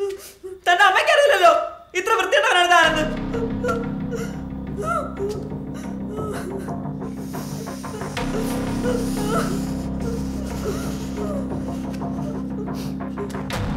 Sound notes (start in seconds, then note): 3.7 tense music; 7.5 loud breath